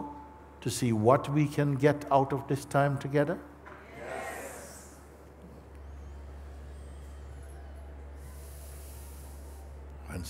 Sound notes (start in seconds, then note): 3.8 voices in audience